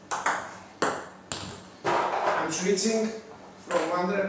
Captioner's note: ball ping pong hitting